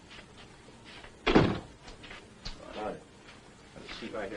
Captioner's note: door closing